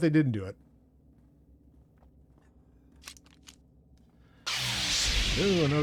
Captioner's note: gun fires